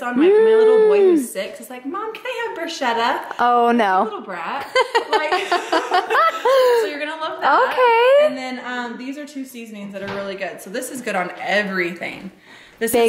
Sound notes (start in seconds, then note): 4.8 laughs